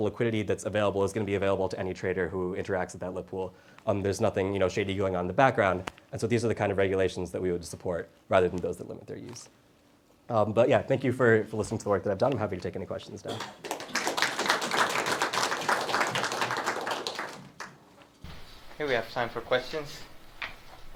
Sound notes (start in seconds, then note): 13.3 audience claps